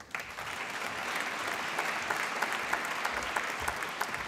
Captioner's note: applause